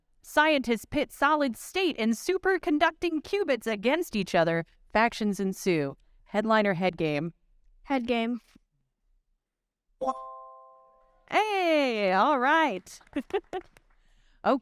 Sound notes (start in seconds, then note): 10.0 bright chime; 12.3 audience clapping